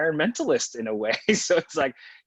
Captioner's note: laughs